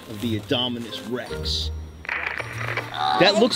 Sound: static crackles

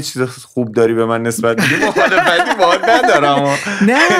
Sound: laughter

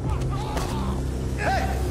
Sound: ominous music continues; men shouting

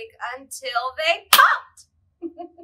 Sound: claps loudly; laughs

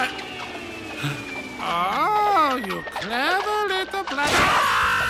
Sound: gasps; screams

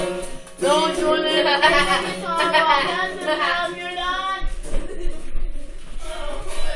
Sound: laughing

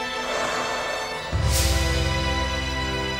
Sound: sighing

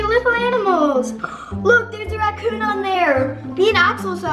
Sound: gasp

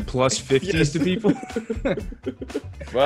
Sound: laugh

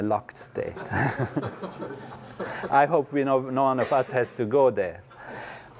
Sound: laugh

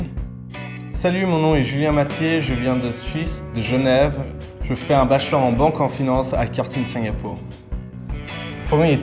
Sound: French language

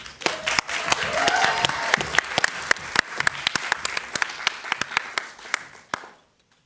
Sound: audience applauding

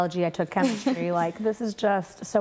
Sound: laughs

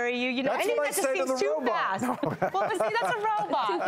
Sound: laughing

